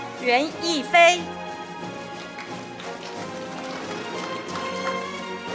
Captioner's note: audience applauding; orchestral music